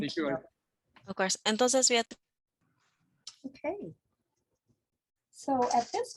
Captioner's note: speaks in foreign language